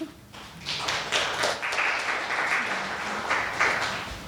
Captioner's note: audience applauding